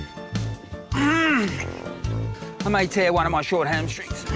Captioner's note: grunts